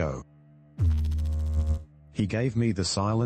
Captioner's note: electrical noise